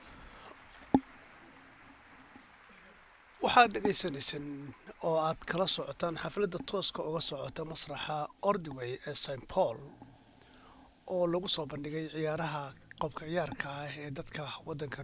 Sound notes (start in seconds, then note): 3.1 applause